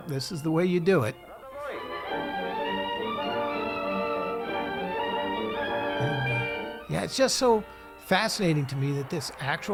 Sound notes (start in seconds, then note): 1.5 dramatic music; 1.7 soldier speaking Russian